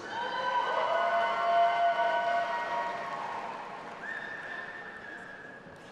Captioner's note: audience applauding and cheering